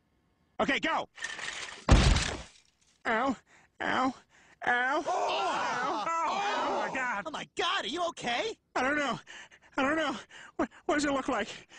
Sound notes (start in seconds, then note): 1.0 flatbed and freight car rolling; 1.6 thud; 4.7 all gasping louder